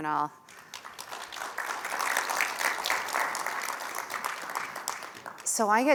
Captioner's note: applause